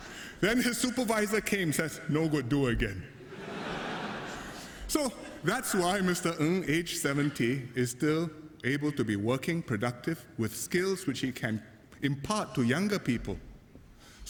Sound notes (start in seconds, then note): 3.2 laughter